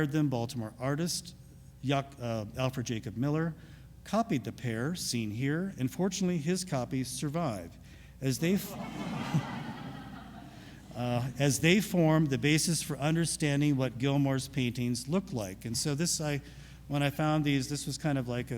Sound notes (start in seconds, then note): 8.6 audience laughs